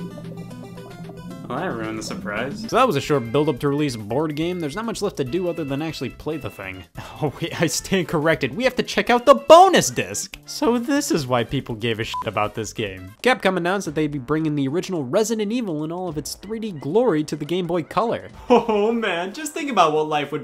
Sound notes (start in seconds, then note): 12.1 beep